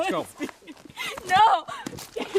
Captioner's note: sobbing